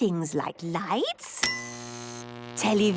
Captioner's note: light bulb buzzing; TV static, show music